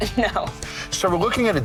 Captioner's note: woman chuckling